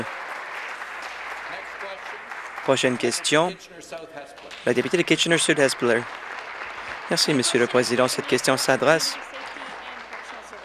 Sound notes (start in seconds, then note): 1.4 applause